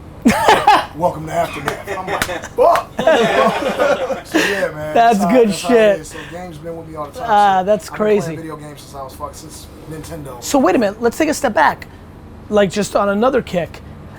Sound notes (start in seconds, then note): 3.5 group laughter